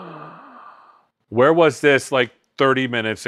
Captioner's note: gasping